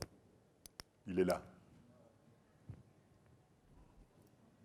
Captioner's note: speaking french